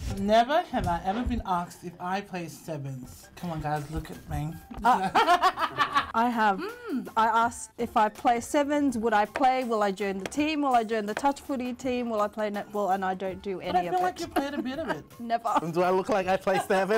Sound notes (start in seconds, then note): 4.9 both laughs; 16.4 chuckles